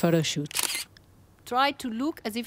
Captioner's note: camera clicks